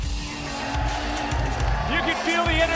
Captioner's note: crowd cheers